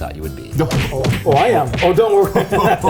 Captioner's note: fists thumping; laughing